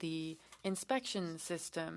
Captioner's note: speaking French